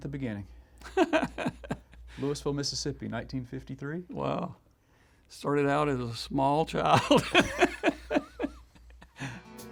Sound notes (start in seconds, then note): 0.9 chuckles; 7.1 laughing